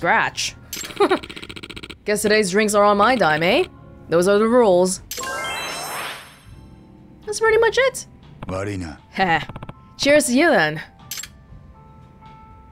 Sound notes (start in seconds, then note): 0.8 chuckles